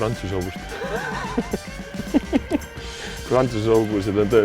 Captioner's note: laughs